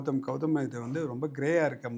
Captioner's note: none